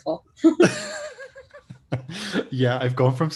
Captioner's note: both laughing